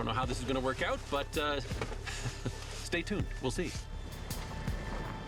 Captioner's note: chuckles